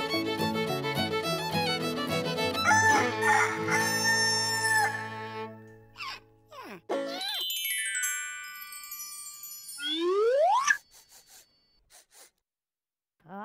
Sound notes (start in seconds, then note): 2.6 crowing; 10.2 sniffing